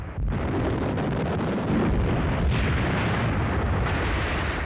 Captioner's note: guns firing